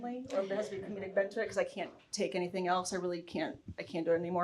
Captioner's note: speaking faintly